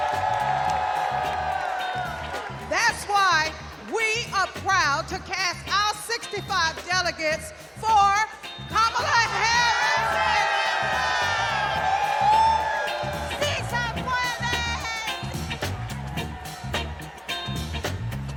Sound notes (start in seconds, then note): 6.6 cheers and applause; 17.8 cheers and applause